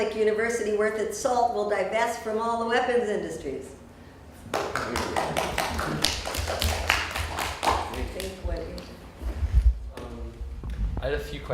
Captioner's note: clapping